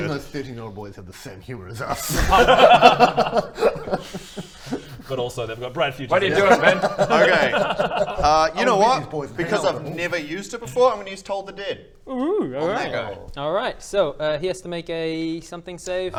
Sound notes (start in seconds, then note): 1.9 guilty giggles